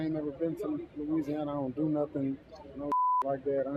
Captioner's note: beep